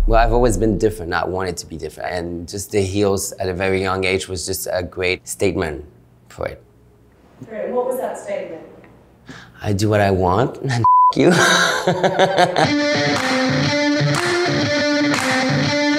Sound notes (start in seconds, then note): 11.2 laughing; 12.6 upbeat music